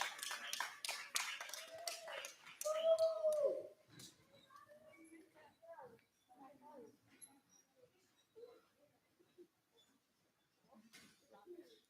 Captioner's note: applause